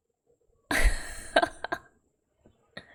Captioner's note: laughs